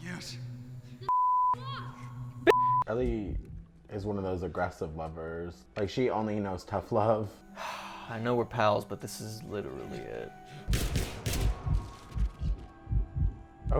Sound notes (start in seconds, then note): 2.4 beeping; 7.5 exhaling; 10.6 gun firing